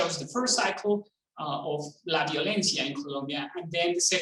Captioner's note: speaking in foreign language